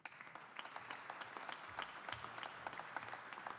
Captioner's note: audience applauding